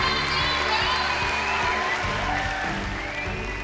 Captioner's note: cheering and applause